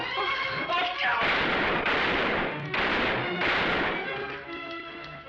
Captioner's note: gunshots